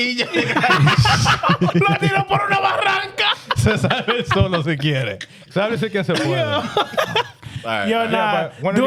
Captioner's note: laughter; speaking Spanish